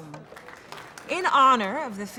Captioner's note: applause